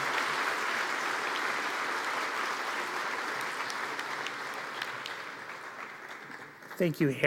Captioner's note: applause